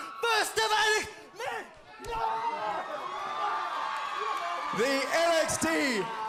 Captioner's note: crowd cheering